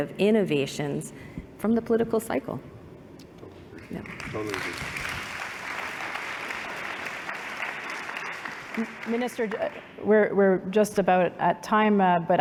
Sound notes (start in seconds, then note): 5.7 applause